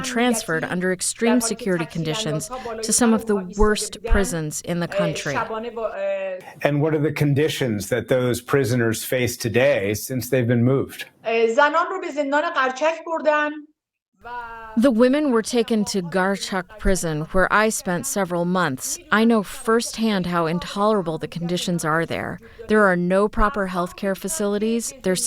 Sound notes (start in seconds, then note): 15.3 through translator